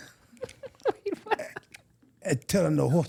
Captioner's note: chuckling